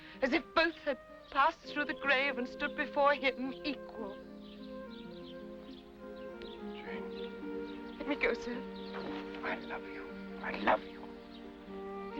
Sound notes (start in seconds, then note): 5.3 birds chirping; 5.3 sentimental music